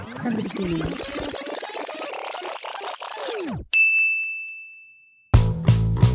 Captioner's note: rewind sound effect